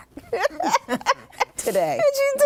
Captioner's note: laughter